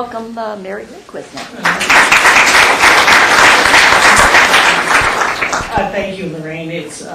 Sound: applause

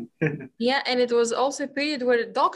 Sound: laughs

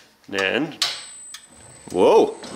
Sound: buttons clicking

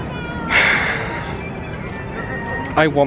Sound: sighs

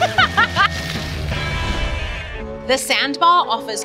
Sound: woman laughs

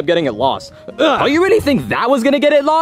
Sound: Mario grunting

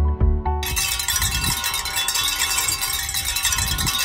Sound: soft piano music; bells jingling

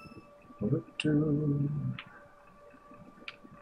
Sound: humming

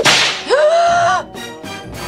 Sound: Gekko Gasps

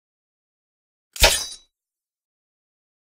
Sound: sound of sword

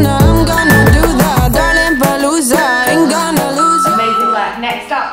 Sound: workout timer beeping

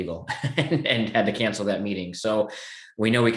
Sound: laughing

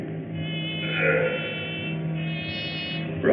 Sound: grunts

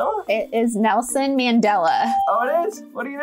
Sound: bell rings

